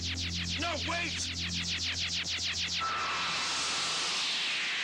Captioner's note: transmitter whirring